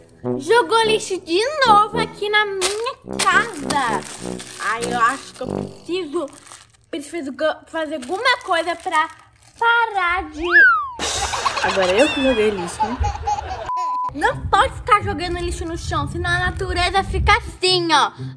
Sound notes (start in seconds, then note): 10.2 sliding whistle sound; 10.5 baby giggles